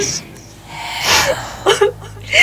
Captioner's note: sobbing